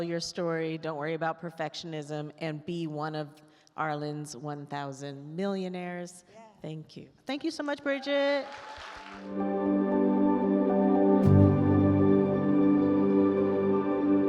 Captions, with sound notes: Don't worry about perfectionism. And be one of Arlan's 1000 millionaires. - Yeah. - Thank you. - Thank you so much, Bridgid. (attendees applaud) (joyful orchestral music)